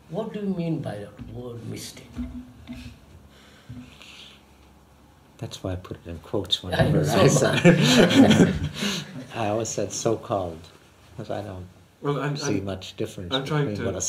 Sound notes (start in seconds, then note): 7.2 laughs